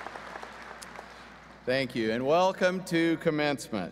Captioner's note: applause